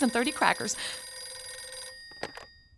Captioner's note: phone ringing